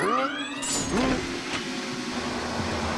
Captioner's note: suction hissing